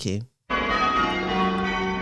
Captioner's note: bells ringing call changes